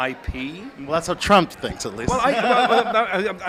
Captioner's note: laughs